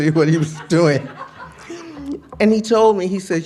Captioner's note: laughter